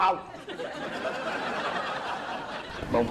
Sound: laughters

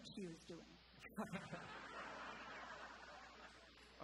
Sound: & audience chuckling

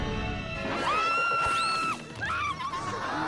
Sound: screaming; gasping

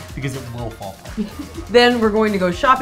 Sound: laughs

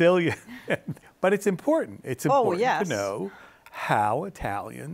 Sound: laugha

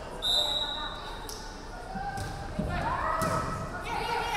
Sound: referee whistling

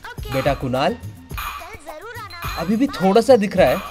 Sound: sound from the Movie in TV

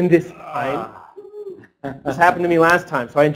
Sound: man groans; audience member whoops

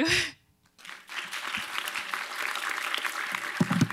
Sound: applause

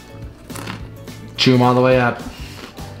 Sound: crunching

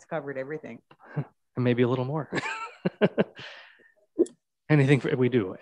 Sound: laughs

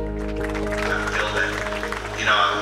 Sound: clapping

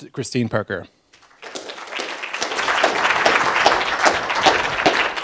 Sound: applause

